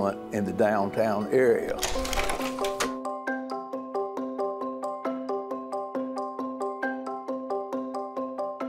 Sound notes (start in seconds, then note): 1.6 slide projector clicking; 3.7 whimsical music